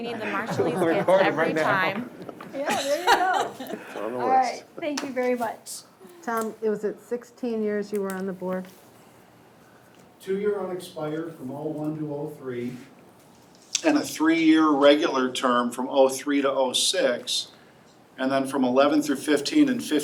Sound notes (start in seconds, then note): 2.5 woman laughs